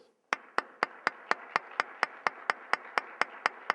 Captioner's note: applause